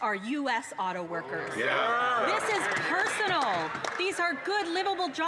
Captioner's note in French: voix de l'interprète